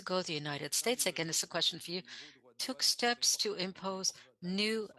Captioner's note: speaking French